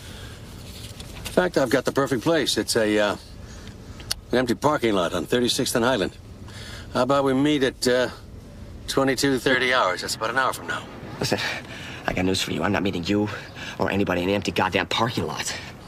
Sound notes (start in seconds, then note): none